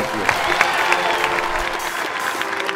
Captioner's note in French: applaudissements, encouragements